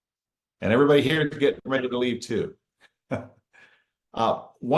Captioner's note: chuckles